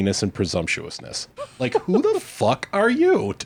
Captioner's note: laughs